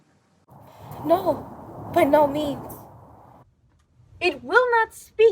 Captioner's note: wind blowing